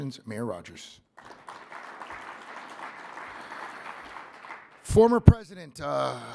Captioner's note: audience applauding